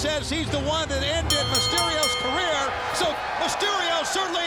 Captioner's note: bell rings